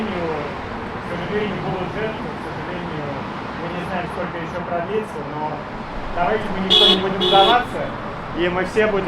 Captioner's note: supporting honks